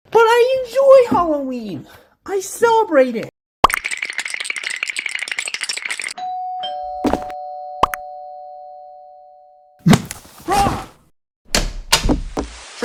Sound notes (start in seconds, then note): 6.2 door Bell ring